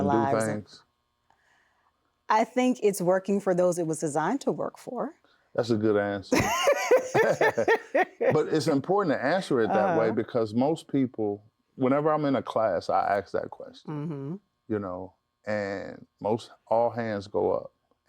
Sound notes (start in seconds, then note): 6.3 laughs